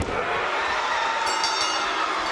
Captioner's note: bell rings